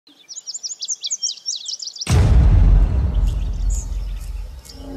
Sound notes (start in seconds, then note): 0.0 birds Chirping; 2.0 boom noise